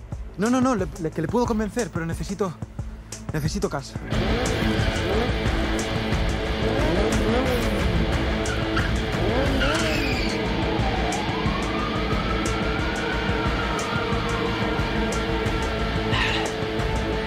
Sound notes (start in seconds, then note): 4.2 engines; 9.6 brake and sirens